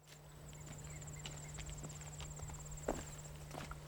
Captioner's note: insects chirp